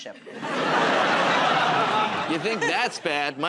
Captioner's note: laughter